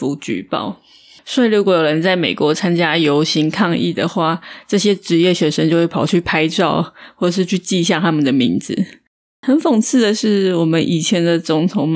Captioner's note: Taiwanese